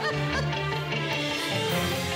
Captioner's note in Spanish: Risas